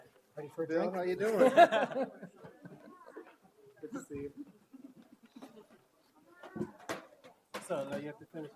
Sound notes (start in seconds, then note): 1.3 audience laugh; 5.0 audience chatter